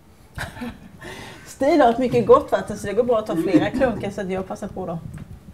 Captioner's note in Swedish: Skratt